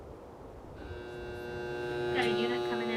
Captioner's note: buzzer drones